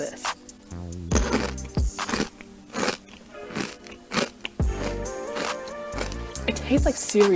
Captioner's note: crunch